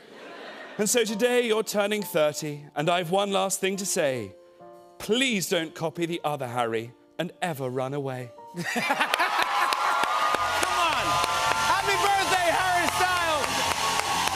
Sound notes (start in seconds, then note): 8.6 laughter, cheers, applause